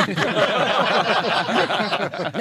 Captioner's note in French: rires